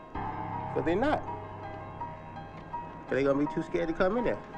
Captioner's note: bell Clanging